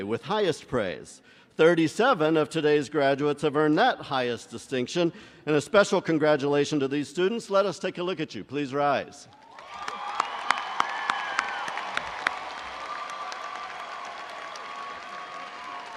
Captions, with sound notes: with highest praise. 37 of today's graduates have earned that highest distinction and a special congratulations to these students. Let us take a look at you. Please rise. (crowd cheering)